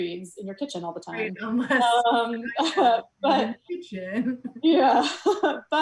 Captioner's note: overlapping chatter; soft laughs